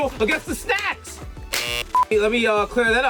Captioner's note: Mero claps; buzzer buzzes